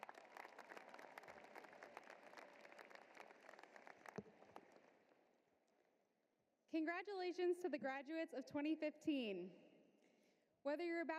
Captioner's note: applause